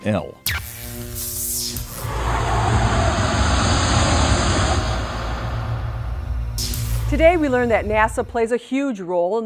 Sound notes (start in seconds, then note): 1.8 sound Effects